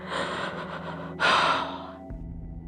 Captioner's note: sobbing